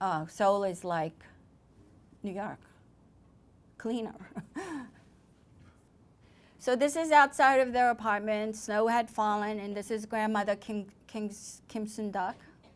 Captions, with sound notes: Seoul is like New York. Cleaner. (laughter) So this is outside of their apartment. Snow had fallen and this is grandmother Kim Sun-duck.